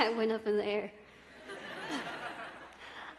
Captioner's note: laughter